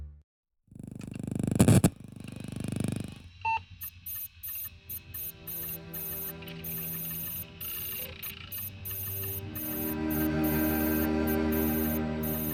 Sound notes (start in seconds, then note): 3.4 mechanical beeping; 4.8 somber music